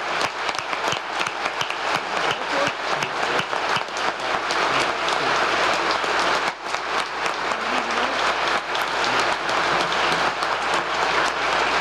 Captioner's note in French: applause